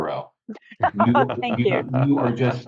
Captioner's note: laughing